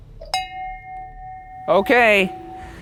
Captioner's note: bell chimes